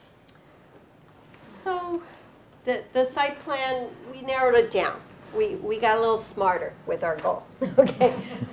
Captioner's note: chuckling